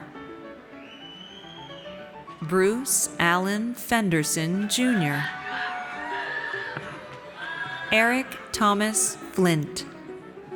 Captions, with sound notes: Bruce Allen Fenderson Junior. (audience cheers) Eric Thomas Flint.